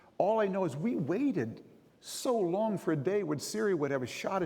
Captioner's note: none